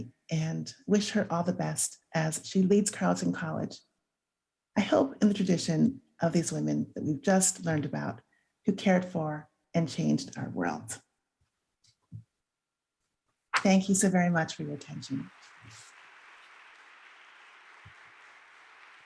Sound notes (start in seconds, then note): 15.1 crowd applauding